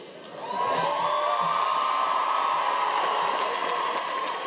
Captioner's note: cheers and applause